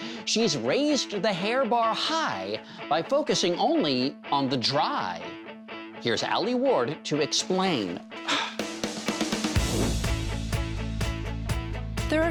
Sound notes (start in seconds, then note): 8.2 upbeat music; 8.2 sighs